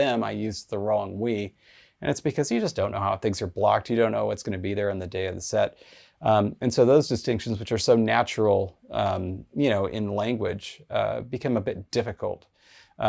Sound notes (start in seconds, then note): none